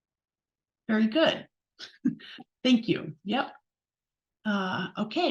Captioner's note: chuckles